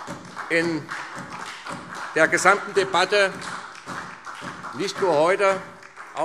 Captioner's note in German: Beifall SPD